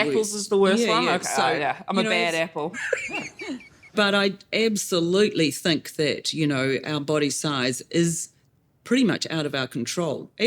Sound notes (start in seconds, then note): 2.8 laughs